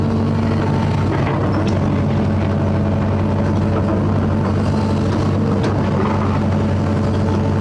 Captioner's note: heavy Engine